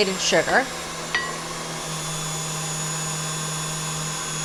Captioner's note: mixer whirs